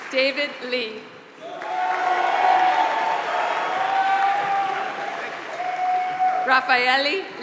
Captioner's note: applause